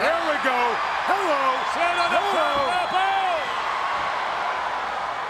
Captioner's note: audience cheers